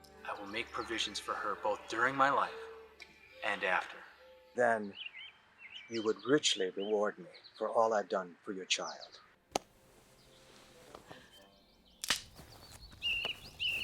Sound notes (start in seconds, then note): 12.0 stick snaps